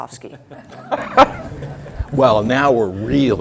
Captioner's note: laugh